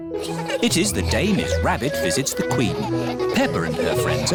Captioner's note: all giggling